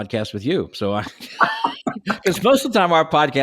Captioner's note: laughs